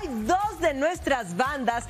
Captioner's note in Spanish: aplausos